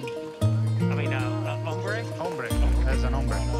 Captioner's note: Spanish language